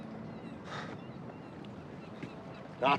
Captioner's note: sighing